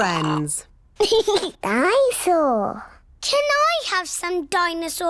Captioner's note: giggles